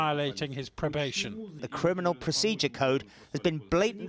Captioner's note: through translator